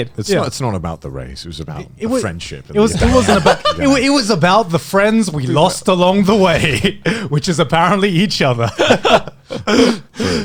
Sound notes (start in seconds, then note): 2.8 laughing; 6.2 chuckles; 8.8 laughing